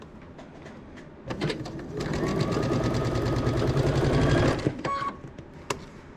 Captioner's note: sewing machine clunking